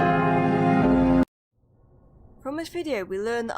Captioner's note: abrupt cutoff